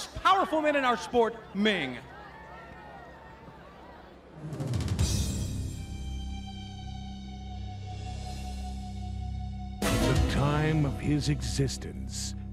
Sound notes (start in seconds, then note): 4.9 crowd chatter